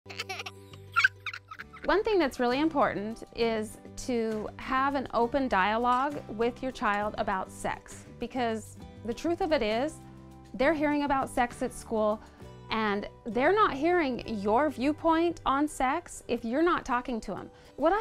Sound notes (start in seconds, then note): 0.9 kid laughing